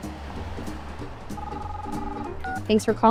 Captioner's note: phone ringing